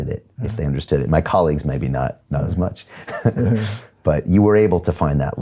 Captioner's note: chuckles